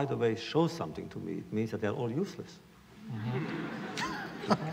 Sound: laughter

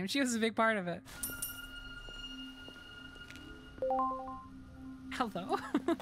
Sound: ominous High-Pitched Tone; laughter

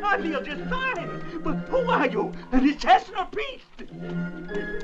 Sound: pleading

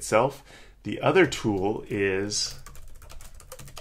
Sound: typing

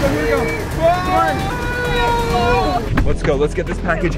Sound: makes siren noise; screams

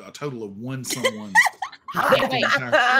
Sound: laughing

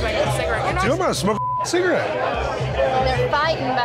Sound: beeping

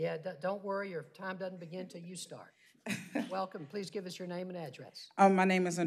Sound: laughter

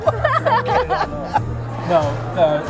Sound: laughing

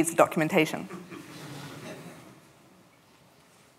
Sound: laughter

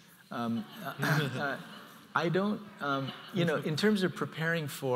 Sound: audience laughs

